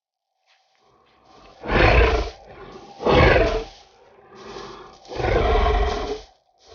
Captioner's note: footsteps rustling; creature breathing heavily